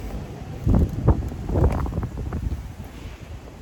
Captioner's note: wind rushes